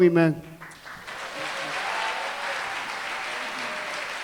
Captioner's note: cheering, applause